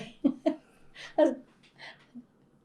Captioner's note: laughs